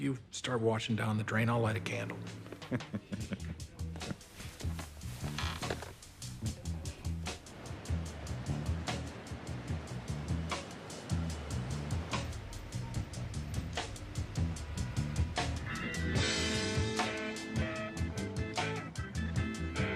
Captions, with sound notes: If you start washing down the drain I'll light a candle. (Ralph chuckles) (light jazz music)